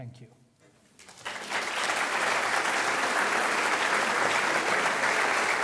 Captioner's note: audience applauds